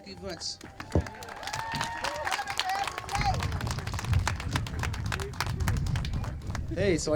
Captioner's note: applause